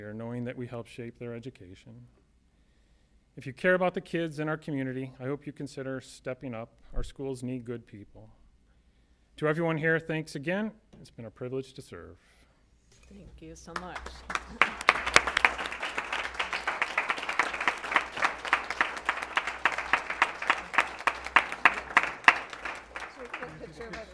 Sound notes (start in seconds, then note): 14.4 applause